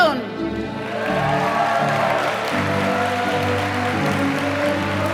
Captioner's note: applause